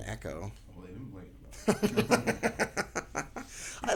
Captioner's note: chuckling